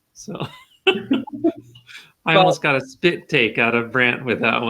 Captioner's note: laughing